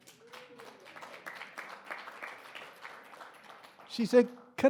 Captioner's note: audience clapping